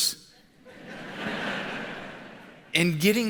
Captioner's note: audience laughs